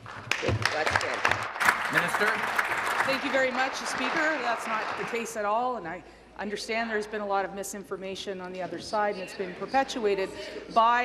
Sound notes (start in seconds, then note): 5.0 applause